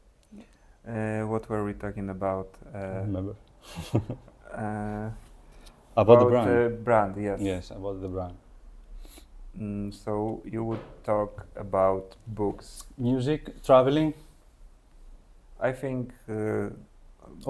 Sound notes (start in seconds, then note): 3.6 laughs